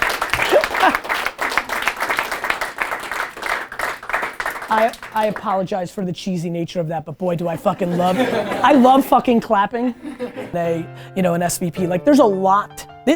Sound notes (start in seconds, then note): 7.4 team laughing